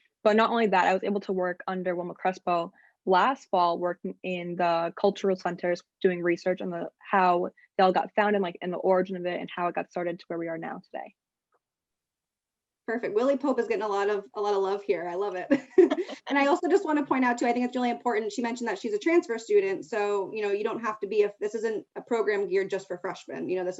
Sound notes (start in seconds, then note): 15.8 laughing